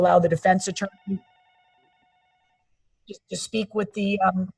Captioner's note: phone ringing